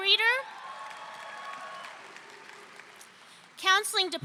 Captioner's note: audience cheering